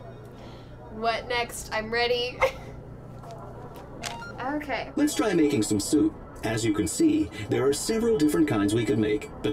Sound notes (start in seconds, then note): 0.9 robotic voice; 2.4 giggling; 4.0 gentle beeping